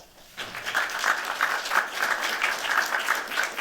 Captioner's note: applause